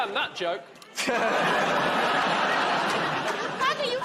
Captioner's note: laughter